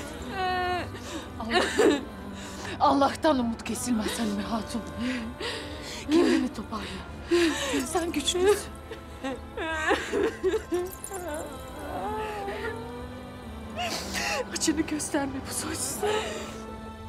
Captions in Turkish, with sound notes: Allah'tan, Allah'tan umut kesilmez Halime Hatun. Kendini toparla. Sen güçlüsün. (Ağlama sesi) Acını gösterme bu soysuzlara.